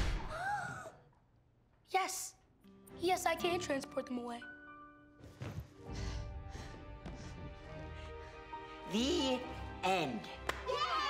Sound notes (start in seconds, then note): 0.5 gasps; 6.6 panting